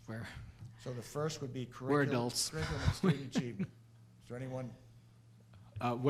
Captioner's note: laughs